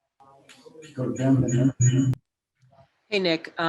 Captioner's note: PA announcement